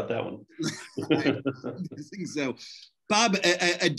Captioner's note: laughs